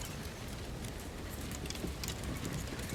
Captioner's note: heavy wind sound continues